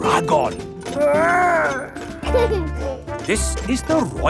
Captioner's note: giggles